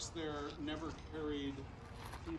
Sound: footsteps on gravel

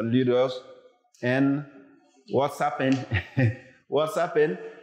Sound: chuckles

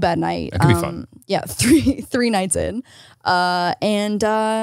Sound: laughs

